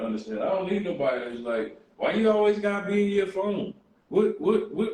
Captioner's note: none